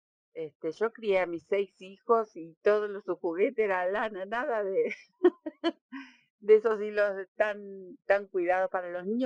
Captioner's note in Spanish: risas